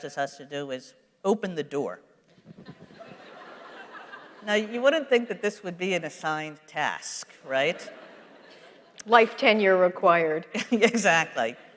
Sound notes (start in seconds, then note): 2.6 laughter; 10.3 laughs